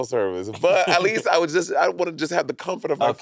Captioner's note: chuckling